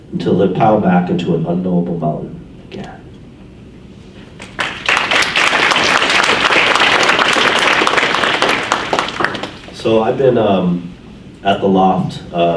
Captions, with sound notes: until they pile back into a unknowable volume again. (audience applauds) So I've been at the Loft,